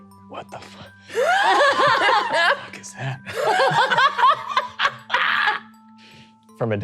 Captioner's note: all laughing